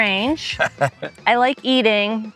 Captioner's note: laughing